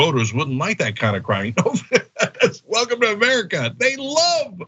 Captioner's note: laugh